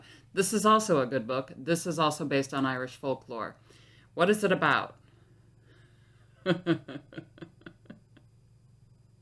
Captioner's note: laughing